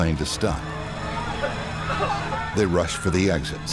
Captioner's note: passengers chattering; coughing